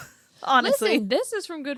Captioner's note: laughs